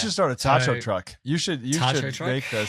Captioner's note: laughs